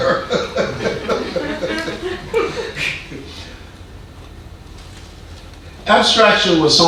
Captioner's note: man laughing; audience laughing